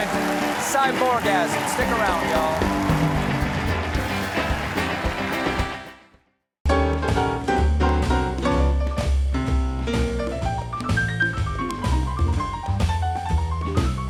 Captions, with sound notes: CYBORGASM. STICK AROUND, Y'ALL. ( CHEERS AND APPLAUSE ) ( BAND PLAYING )